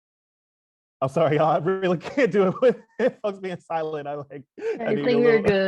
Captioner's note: laughs